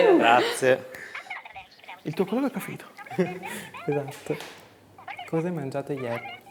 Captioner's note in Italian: vociare indistinto